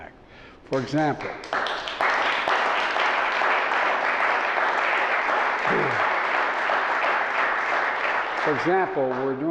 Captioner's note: applause